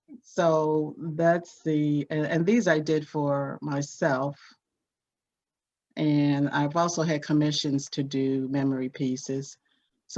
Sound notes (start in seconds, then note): none